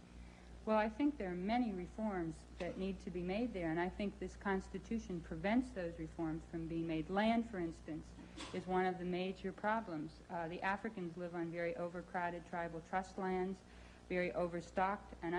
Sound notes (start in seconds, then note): none